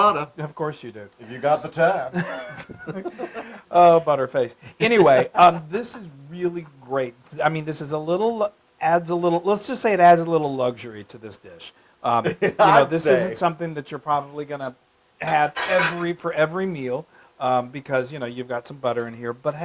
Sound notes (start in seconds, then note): 2.7 laugh; 12.2 laugh